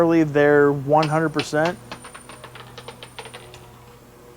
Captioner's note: coin falls